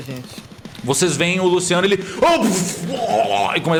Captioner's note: drowning noises